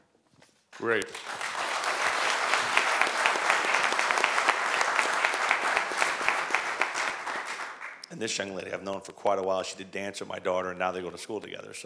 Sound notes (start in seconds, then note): 0.7 applause